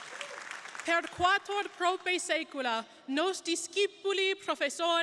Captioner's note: crowd applauding; speaks in Latin